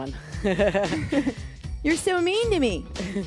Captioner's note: both laugh